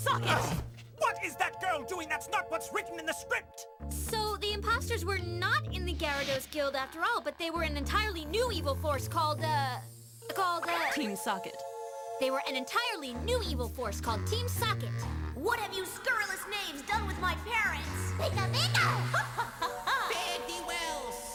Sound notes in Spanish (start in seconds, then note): 13.6 molesto